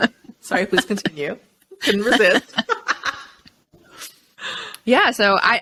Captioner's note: both laughing